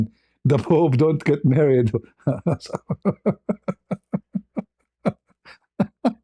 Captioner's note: ketawa